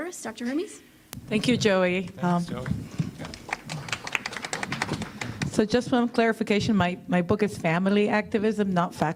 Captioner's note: applause